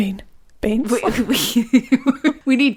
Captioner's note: laughing